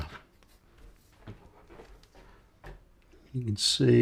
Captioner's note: silence